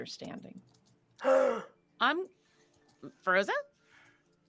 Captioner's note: Fairuza gasps